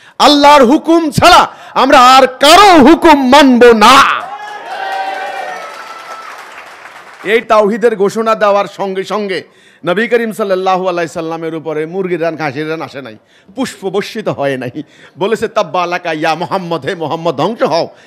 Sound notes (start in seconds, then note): 4.5 clapping